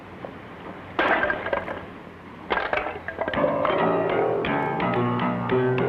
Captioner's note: man smashing stool; piano music